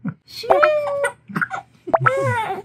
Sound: laughing

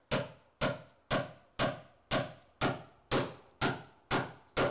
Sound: hammer banging loudly

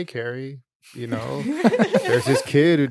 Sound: laughing

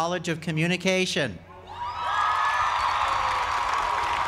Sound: applause

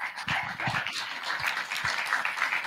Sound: applause

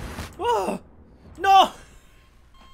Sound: premature sigh of relief

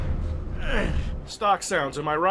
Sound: ugh!

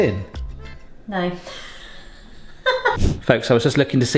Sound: laughs

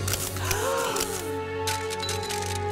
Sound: gasping; uplifting music playing

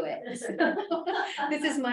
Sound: laughter

